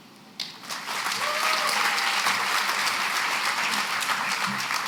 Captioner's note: applause